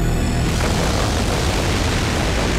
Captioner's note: Explosion